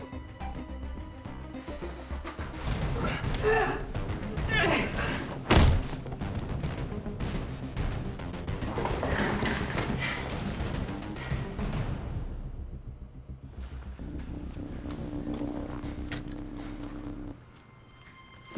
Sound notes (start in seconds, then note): 2.0 man gasps; 4.4 Kat grunts